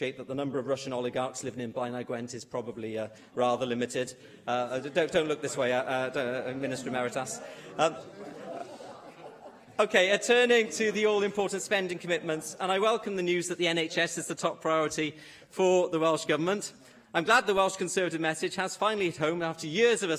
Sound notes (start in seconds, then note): 7.2 laughter